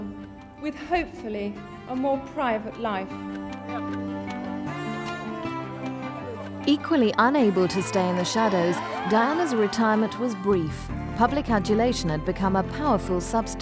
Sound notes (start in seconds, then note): 10.0 crowd cheering